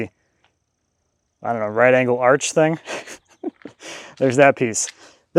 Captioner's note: laughs